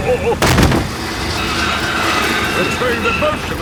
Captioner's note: thud